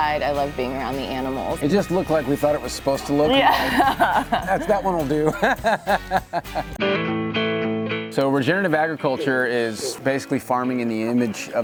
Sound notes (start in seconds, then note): 3.3 chuckles; 5.4 laughs